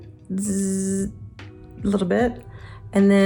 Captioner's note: imitates laser buzzing